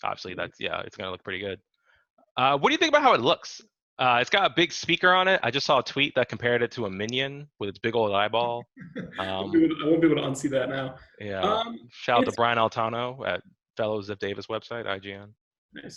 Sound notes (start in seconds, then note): 9.3 laughing